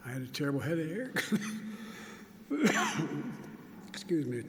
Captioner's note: coughs